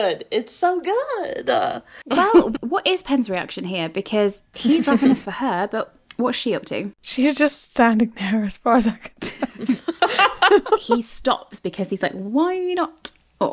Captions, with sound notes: It's so good. - Well, what is Penn's reaction here? Because he's- - He's working for her, but what's she up to? - She's just standing there as far as I can tell. (laughing) - He stops because he's like, "Why not?